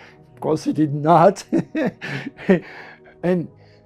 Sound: laughs

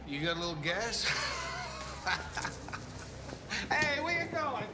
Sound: laughing

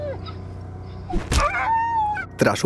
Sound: dog whimpers

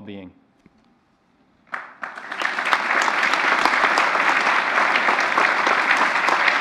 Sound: applause

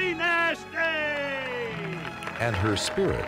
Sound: crowd applauds heartily

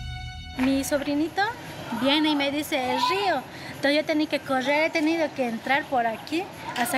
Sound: villager speaking in foreign language

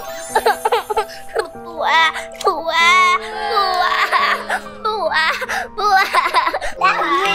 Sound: crying

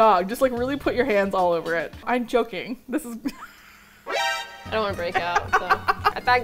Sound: laughs

